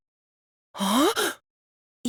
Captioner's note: gasp